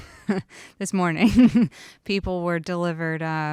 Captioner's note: chuckles